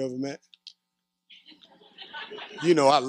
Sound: laughter

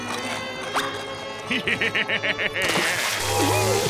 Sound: laughing

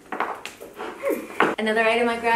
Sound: satisfied sigh

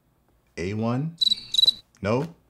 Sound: crickets chirping

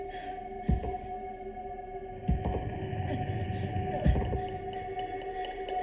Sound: slow footsteps

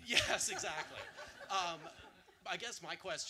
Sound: audience laughter

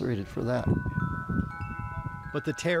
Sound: chimes jingling

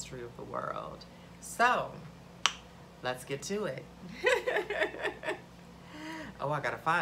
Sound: laughs

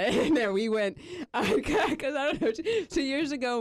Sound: laughs

